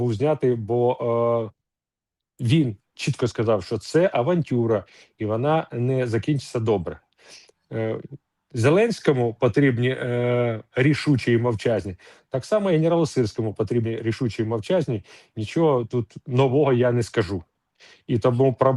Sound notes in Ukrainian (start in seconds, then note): 7.2 сопіння